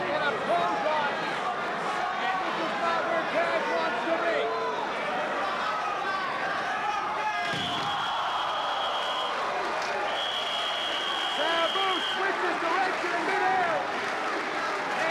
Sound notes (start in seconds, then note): 7.7 spectators exclaiming; 7.7 whistling; 10.1 spectators applauding; 10.1 whistling